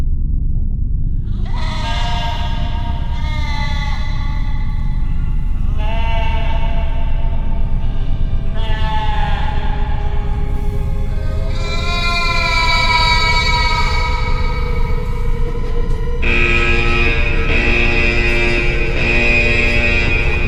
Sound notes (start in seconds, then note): 1.6 sheep bleating; 11.3 sheep bleating; 16.5 alarm buzzing rhythmically